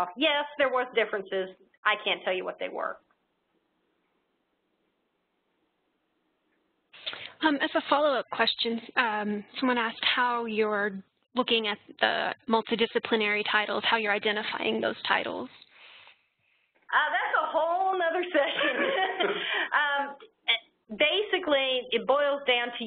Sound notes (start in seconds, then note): 18.4 laughing